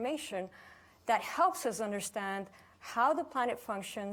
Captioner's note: none